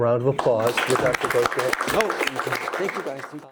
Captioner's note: audience applauding